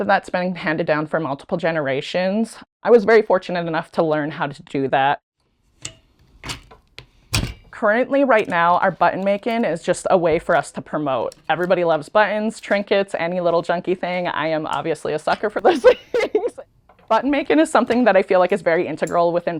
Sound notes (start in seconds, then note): 15.6 laughs